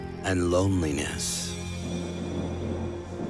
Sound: thunder clap

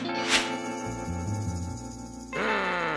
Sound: grumbles

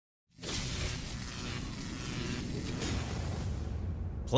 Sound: electricity buzzing

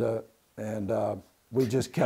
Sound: laughing

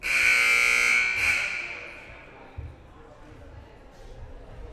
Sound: loud buzzer blaring

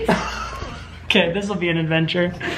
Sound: laughs

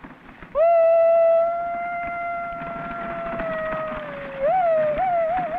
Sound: man howls like a coyote

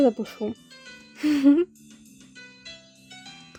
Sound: Maria laughs

